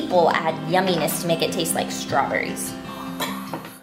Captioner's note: soft gasp